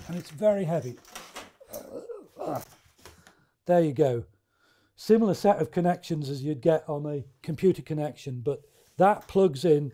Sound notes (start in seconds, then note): 1.6 sounds of struggling curator